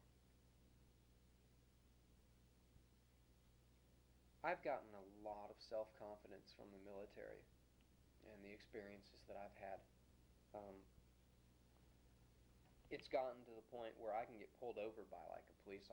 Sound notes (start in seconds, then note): 1.3 pause